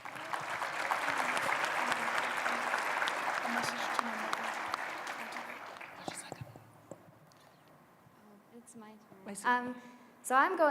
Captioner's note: applause